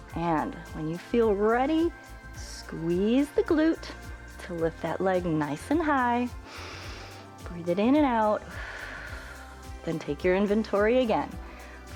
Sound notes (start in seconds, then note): 6.4 inhales; 9.1 exhales